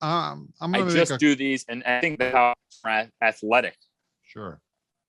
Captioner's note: audio warbles